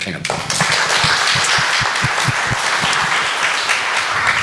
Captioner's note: audience applauding